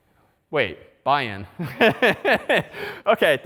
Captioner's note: laughter